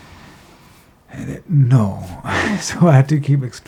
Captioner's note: sighs